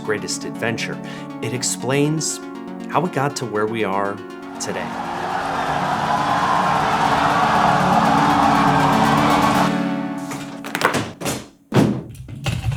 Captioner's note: Space X cheering